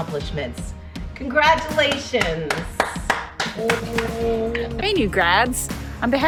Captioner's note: applauds